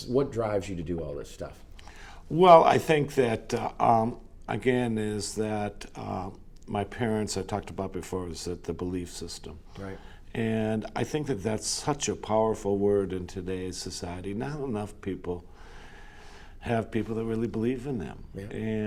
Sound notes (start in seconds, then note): none